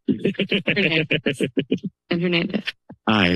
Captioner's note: laughter